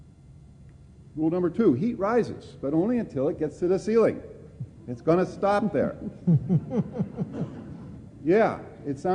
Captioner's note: laughter